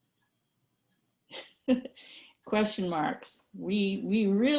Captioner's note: chuckles